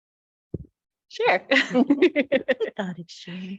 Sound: laughs

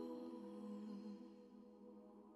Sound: none

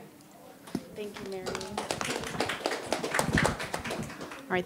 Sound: people applauding

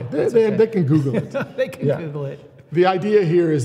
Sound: laughs

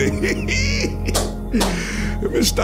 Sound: laughing; clapping

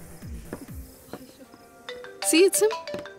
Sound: wishpering

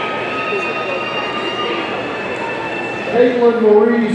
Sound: audience cheering

